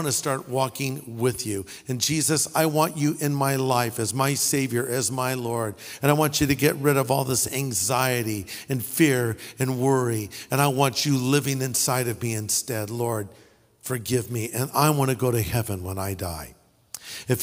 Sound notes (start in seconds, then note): none